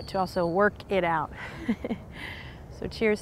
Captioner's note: soft laugh